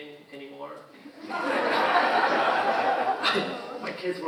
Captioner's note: audience laughing